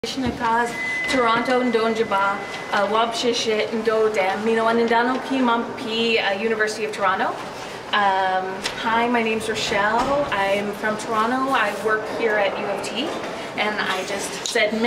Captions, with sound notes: - (speaking in a foreign language) Hi my name's Rochelle, I'm from Toronto, I work here at U of T and I just said